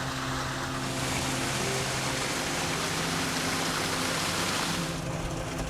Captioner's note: water rushing